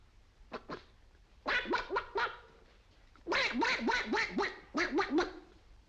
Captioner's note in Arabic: يصدر أصوات البط